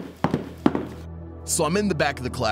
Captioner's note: walking noise